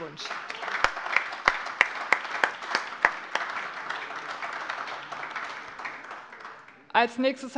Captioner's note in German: Beifall AfD und vereinzelt Freie Demokraten